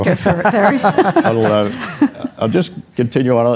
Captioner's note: audience Laughter